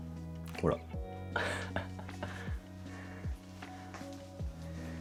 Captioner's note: laughs